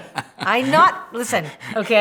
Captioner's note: laughs